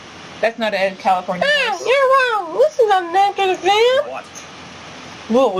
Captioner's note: SL!Usami, high pitched